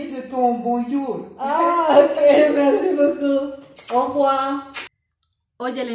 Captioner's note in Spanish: risas